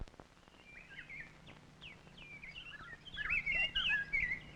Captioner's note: birds chirping